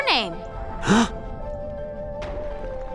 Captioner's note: gasping